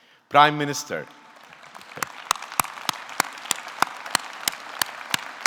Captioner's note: audience clapping